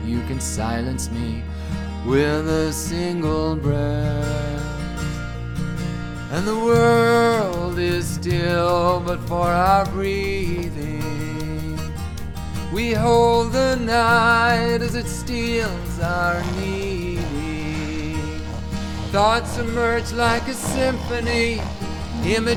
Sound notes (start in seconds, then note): 17.7 snoring